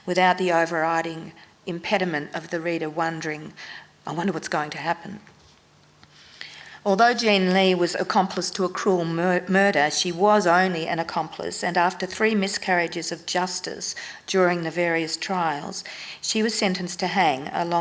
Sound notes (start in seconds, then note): none